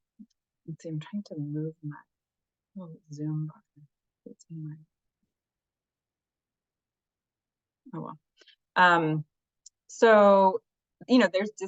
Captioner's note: fades out